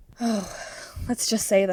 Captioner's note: sigh